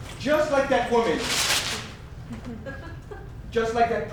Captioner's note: paper ripping